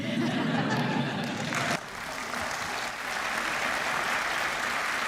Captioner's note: applause